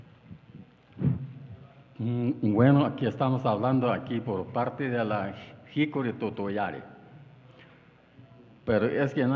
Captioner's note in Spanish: habla en wixárika